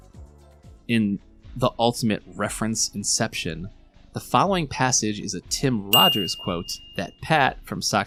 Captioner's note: ding